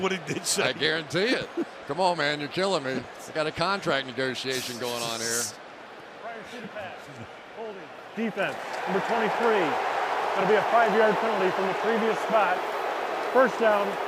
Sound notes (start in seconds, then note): 8.6 booing